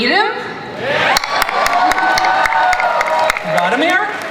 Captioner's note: audience cheers